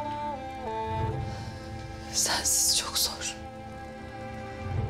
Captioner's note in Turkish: Nefes veriyor